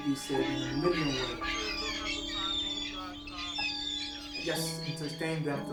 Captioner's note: birds calling loudly